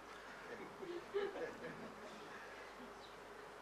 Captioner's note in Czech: smích